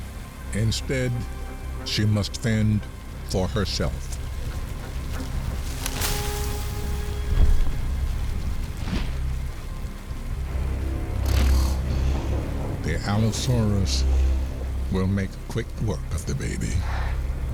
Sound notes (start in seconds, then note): 7.1 rustling; 7.1 soft thud; 10.9 snorting